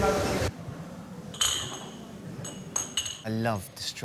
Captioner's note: glasses clinking